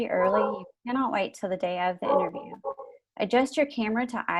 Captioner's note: dogs barking; dogs barking